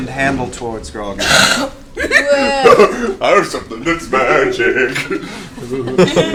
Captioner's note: singsong